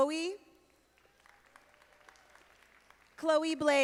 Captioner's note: audience applauding